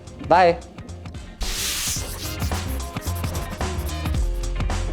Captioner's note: chalk scribbling; upbeat funky music